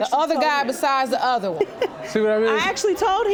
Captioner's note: chuckles